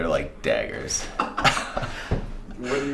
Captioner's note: laughing